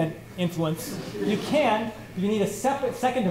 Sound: laughter

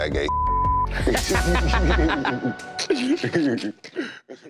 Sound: both laughing

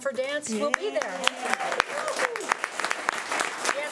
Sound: clapping

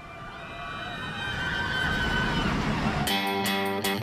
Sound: park visitors screaming; upbeat music

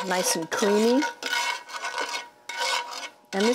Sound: utensils clanking

